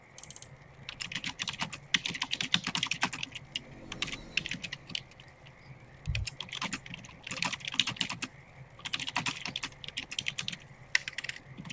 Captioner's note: typing sounds